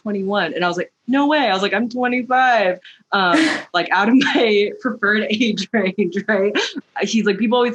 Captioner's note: laughter